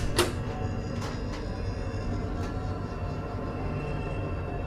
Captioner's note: door opening and closing